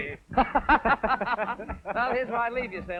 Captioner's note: laughing